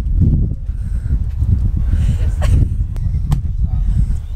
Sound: laughs

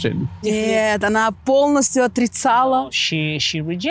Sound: speaking in foreign language

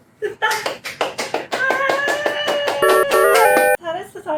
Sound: applause

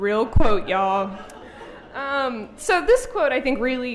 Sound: audience laughing

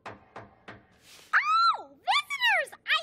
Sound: knocking

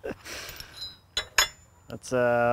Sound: laughs; chain clangs

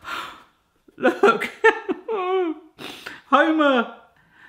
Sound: sobbing

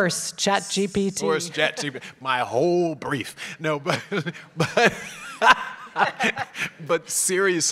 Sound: laugh

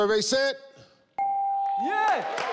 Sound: chime

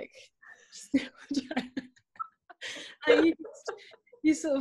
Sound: both laughing

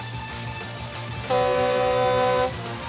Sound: blaring

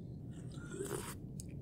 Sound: slurp

